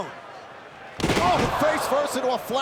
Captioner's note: canvas thuds